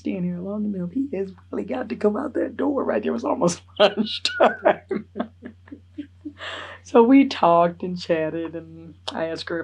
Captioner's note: laughs